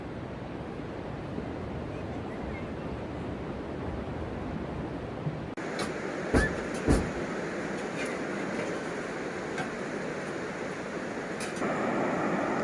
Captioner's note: sea sound